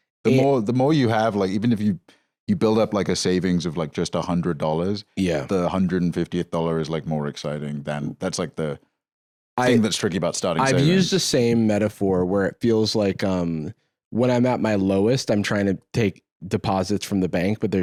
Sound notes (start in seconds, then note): none